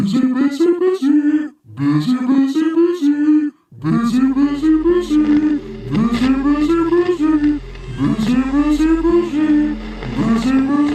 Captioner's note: "Busy" in Mr Blobby voice 21 times, growing more distorted and evil